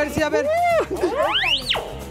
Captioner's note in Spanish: Pitido